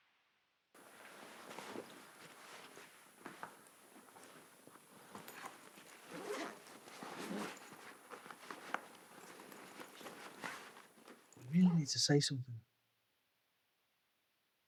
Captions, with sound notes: (bag zipping) - We really need to say something.